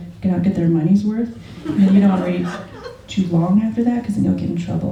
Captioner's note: laughter